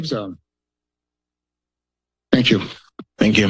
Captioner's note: pause